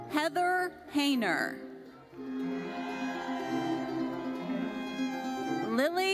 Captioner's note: audience cheers